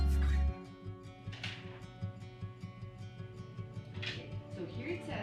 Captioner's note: paper rustling